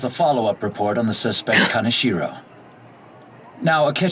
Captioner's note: gasp